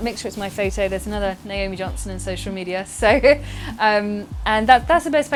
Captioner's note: laughs